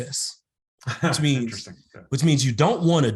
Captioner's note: laughing